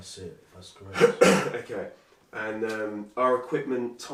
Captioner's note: coughs loudly